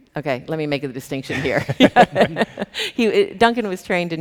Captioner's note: chuckles